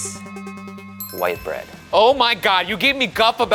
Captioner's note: bell chiming; dramatic music